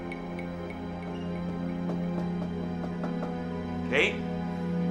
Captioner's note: knocking on door